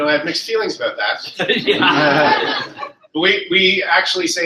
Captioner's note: laughter